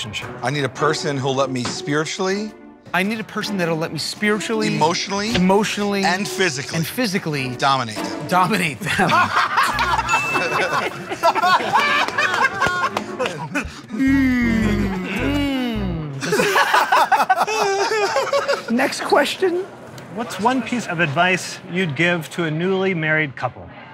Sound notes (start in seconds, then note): 8.8 laughter; 8.8 laughs; 16.2 laughter; 18.4 voice cracking